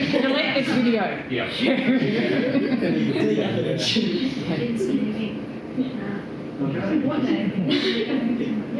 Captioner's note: laughter